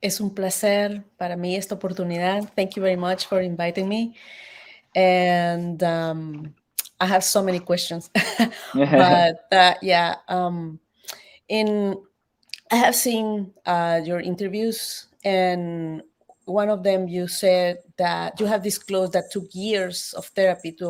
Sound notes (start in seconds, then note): 0.5 speaks Spanish; 8.7 laughs; 8.8 chuckles